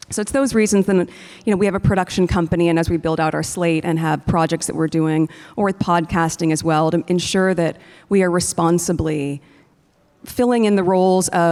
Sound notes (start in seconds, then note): none